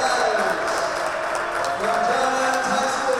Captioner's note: audience applauding and cheering